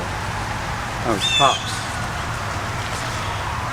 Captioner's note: sirens